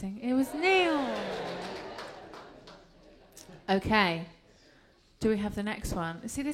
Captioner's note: applause